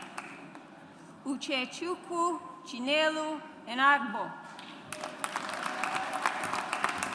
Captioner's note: audience applauds